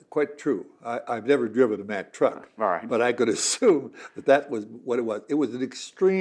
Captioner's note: laughs